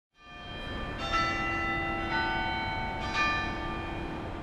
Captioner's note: bell tolls